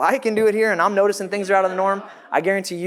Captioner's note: audience laughs